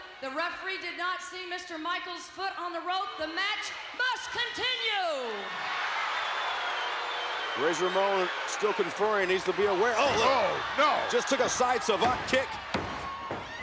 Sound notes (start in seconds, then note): 5.6 crowd cheers; 7.4 crowd boos